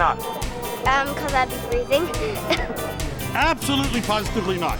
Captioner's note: laughs